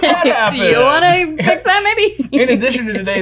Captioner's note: laughing